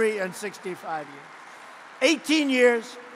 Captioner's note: applause